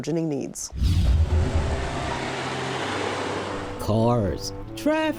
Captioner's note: air whooshing